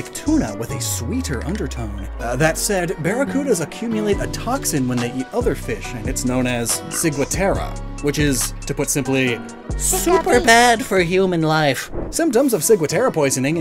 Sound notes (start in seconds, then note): none